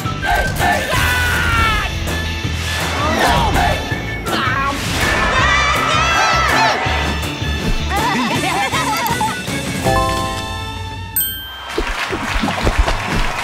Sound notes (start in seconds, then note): 5.0 crowd cheering; 7.8 all laughing; 11.6 audience cheering